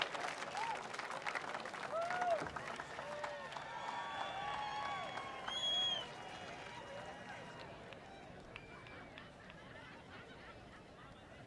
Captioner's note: applause